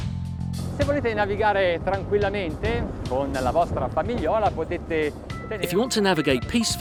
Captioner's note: foreign language